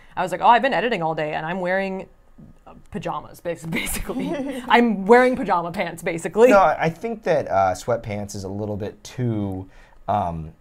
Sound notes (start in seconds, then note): 3.8 chuckles; 4.2 laughs